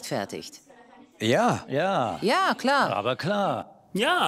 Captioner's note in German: Mehrere Stimmen